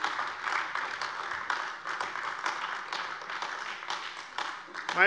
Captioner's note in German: Beifall AfD